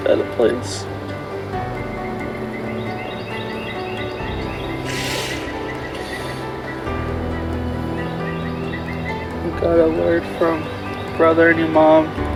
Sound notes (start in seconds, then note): 3.7 birds chirping